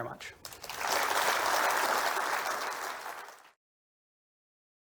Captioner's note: applause